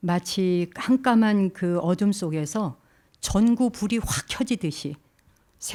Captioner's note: speaking in Korean